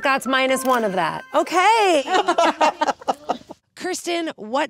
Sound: group laughs

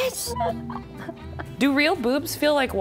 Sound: laughing

